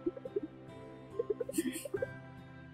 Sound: laugh

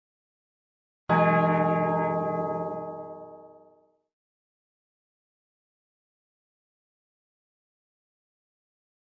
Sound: church bell

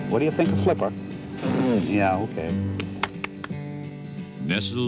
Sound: spitting

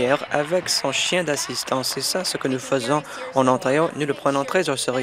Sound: applause

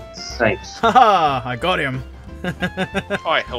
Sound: laughter

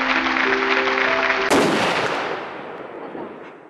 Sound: applause; bang

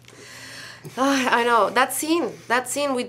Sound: sighs

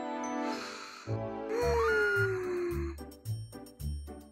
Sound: sigh

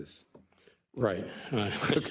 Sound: laugh

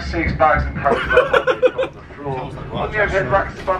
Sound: laughing

